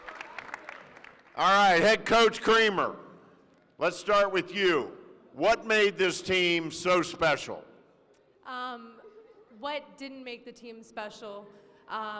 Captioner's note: applause